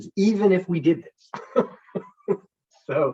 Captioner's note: chuckles